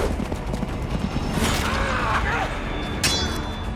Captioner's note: yelling